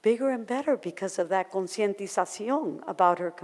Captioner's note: in foreign language